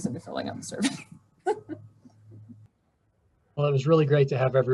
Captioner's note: chuckling